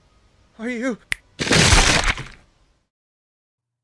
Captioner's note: fingers snap and gory eruption echoes